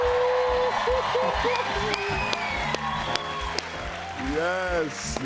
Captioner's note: cheers and applause